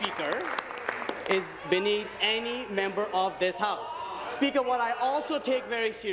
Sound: applause

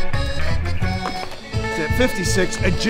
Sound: jumping jacks noises

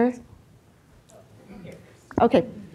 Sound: woman speaking off microphone

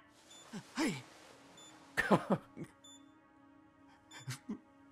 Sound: laughs

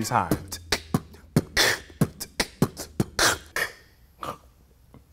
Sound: beatboxing

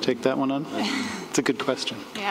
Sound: laughs

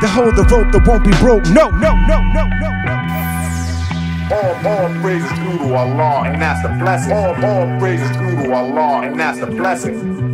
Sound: sampled Voice

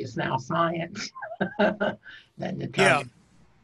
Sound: laughing

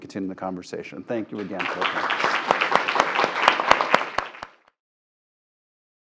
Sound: applause

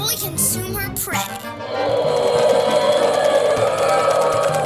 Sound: roar

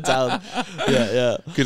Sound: laughing

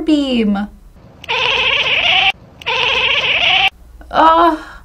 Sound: cat chatters

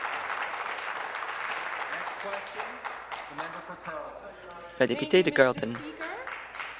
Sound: applause

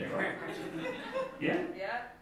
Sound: scattered laughing

